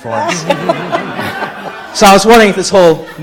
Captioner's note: audience laughing